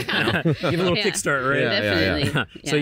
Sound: light laughter

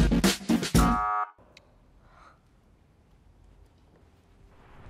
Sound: upbeat rock music continues; soft buzzer sounds

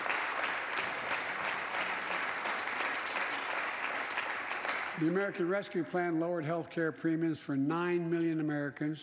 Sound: applause

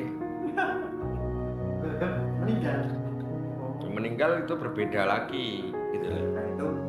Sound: laughs

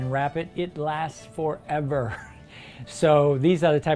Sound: laughing

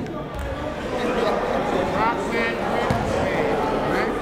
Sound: chatter

